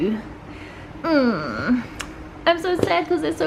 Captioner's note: groaning